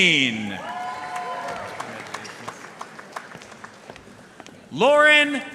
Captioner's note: audience cheering and applauding